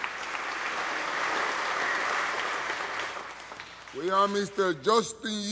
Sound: applause

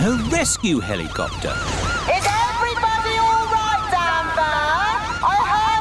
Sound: over megaphone

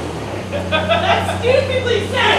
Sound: man laughs

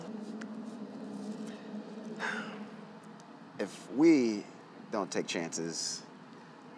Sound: sighs

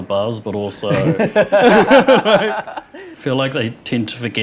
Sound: both laughing

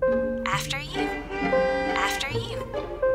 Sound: horn honks

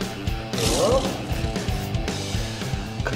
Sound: roar

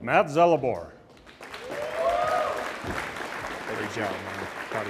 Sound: audience applauds and cheers

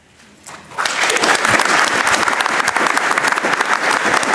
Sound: audience applauding

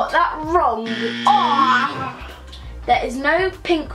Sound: buzzer

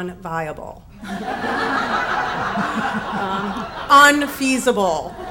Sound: audience laughs

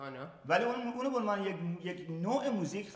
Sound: speaking in farsi

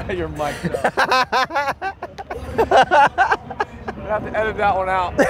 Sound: Edwards laughing

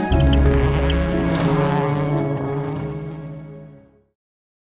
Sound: engine zooming

